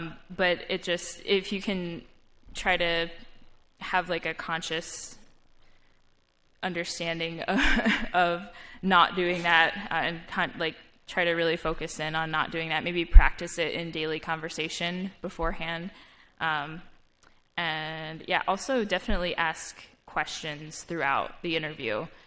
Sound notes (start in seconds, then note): 7.6 laugh